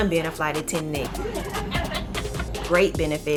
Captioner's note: laughing